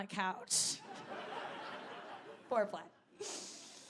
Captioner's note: audience laughing